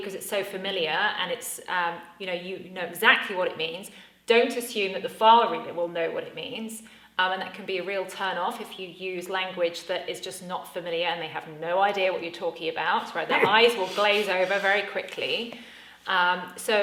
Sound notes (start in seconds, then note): 13.3 laughs